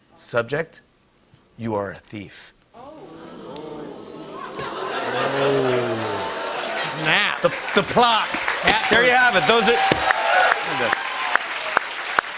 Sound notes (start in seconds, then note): 2.8 audience "Oohs"; 10.1 cheers and applause